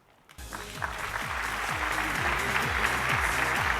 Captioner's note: applause